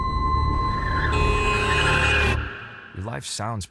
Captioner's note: car horn; brakes screeching